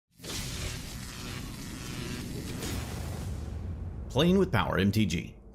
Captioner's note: electricity buzzing